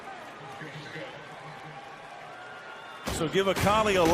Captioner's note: pa announcement